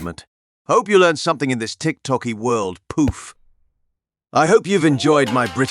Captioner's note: poof